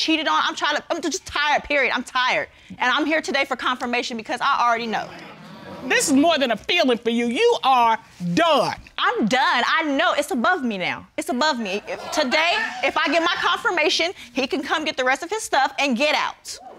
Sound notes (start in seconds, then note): 5.0 audience murmuring